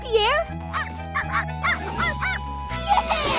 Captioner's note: barking